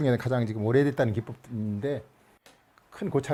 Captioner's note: none